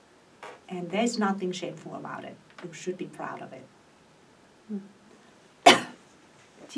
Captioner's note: coughs